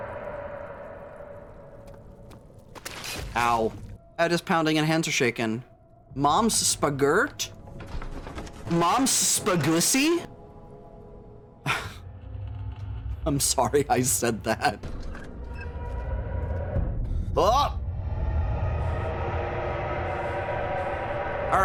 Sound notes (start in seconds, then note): 2.8 piercing fleshy sound; 11.6 sigh; 16.0 primordial roaring; 18.2 roaring louder